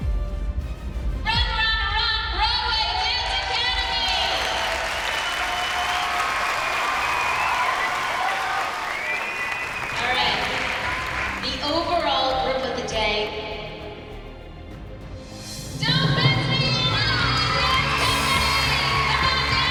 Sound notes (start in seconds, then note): 4.7 dramatic music building; 10.5 cheers and applause